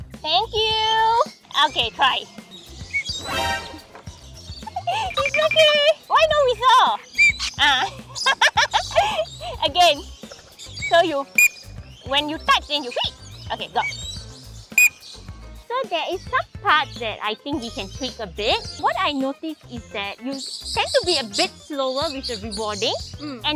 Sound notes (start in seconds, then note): 4.6 laughs; 7.1 blows whistle; 11.3 blow the whistle